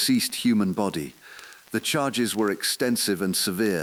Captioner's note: exhale